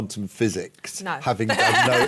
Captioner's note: laughter